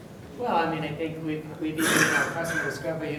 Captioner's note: coughing